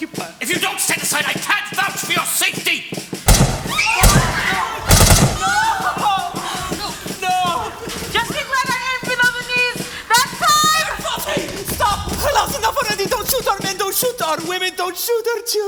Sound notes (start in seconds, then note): 3.2 gunshots; 4.3 cries out in pain!